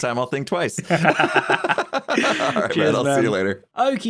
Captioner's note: both laugh